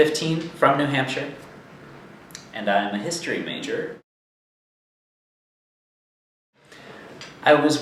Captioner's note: silence